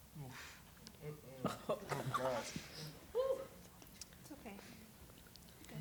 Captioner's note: emotional chatter and shuffling